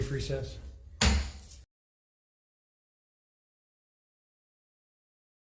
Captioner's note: gavel bangs loudly